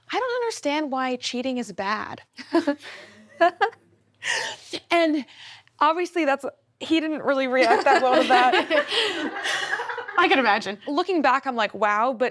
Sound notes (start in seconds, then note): 3.4 giggles; 7.6 all laugh